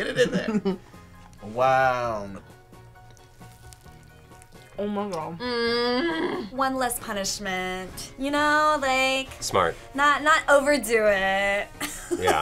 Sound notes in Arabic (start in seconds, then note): 2.5 يمضغ; 5.4 تتأوه; 11.9 يضحك